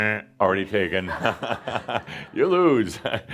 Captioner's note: some laughter